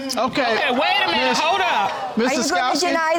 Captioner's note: audience exclaiming